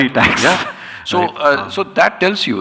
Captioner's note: chuckles